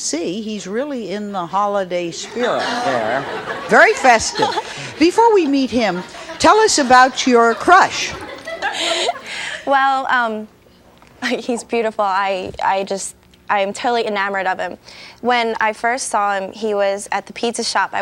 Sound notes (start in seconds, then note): 3.0 audience laughs